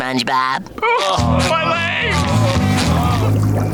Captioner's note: groaning